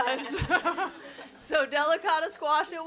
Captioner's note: all laugh